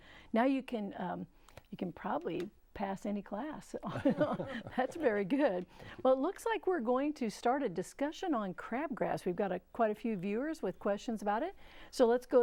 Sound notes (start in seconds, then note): 3.9 laughing